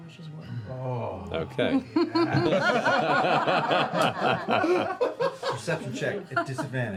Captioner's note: laughter